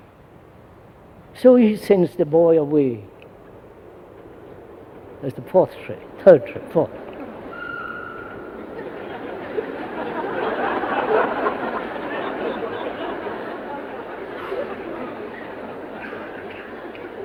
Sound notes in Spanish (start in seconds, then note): 4.0 Sonido de tren; 10.1 Risas